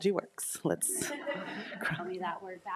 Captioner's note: attendees laughing